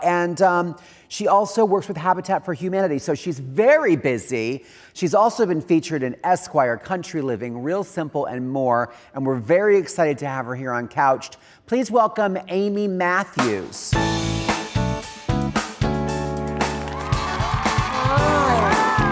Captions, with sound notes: and she also works with Habitat for Humanity. So she's very busy. She's also been featured in Esquire, Country Living, Real Simple and more, and we're very excited to have her here on "Couched." Please welcome Amy Matthews. (upbeat music) (audience cheering) - Hi. - Hi.